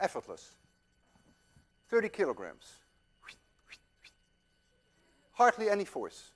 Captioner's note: whistles softly